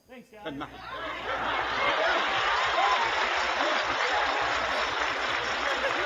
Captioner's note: audience laughs on video